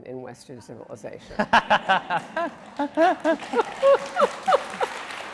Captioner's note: laughing and applauding